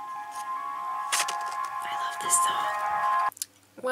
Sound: whispers

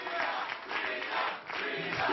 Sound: applause

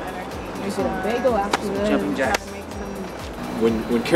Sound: hands slap on legs

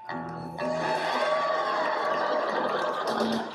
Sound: applause

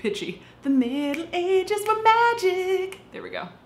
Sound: fingers snapping

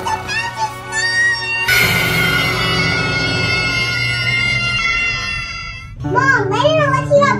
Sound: screams

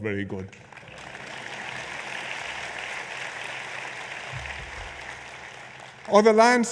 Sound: applause

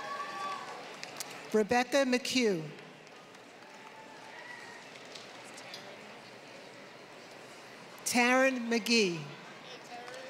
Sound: applause; applause

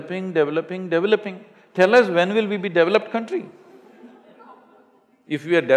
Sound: laughter

